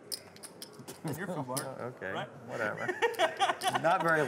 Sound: laughing

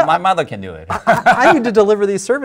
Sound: both laugh

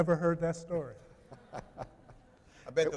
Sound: chuckling

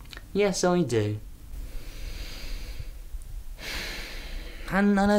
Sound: deep sigh

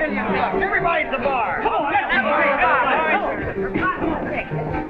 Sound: all cheer

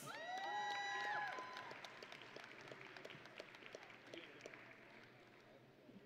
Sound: audience and graduates cheering

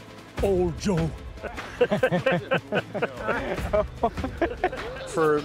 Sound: men all laughing

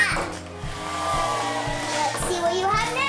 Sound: cheering

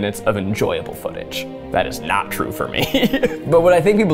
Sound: chuckling

